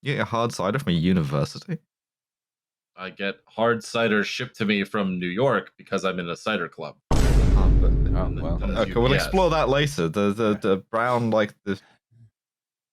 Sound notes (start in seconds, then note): 7.1 echoing BOOM